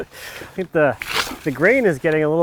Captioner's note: water sloshes